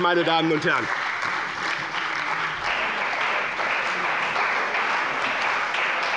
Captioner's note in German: Anhaltender Beifall bei dem BÜNDNIS 90/DIE GRÜNEN und der CDU